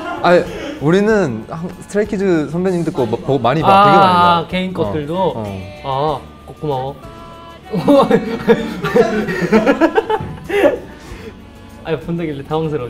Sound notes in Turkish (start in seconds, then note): 7.7 Gülüşmeler